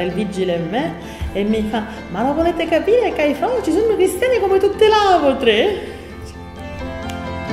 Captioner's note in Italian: accento siciliano